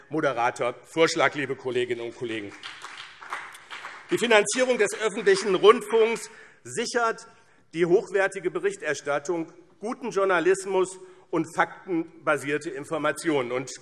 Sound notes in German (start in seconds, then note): 1.9 Beifall BÜNDNIS 90/DIE GRÜNEN